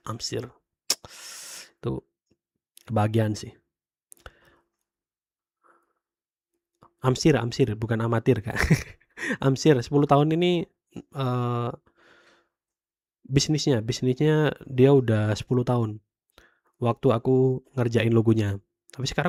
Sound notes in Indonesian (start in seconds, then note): 10.2 tertawa